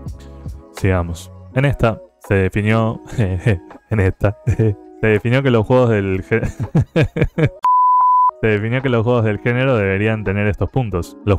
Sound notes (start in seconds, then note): 4.3 laugh; 4.4 stupid person laugh; 6.3 more stupid person laugh